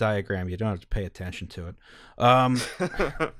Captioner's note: laughter